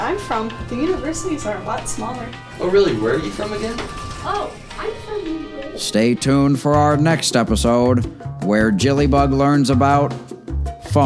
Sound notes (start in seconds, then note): 4.4 elevator closes